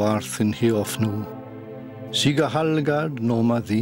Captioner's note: man reciting "The Lord's Prayer" in Old English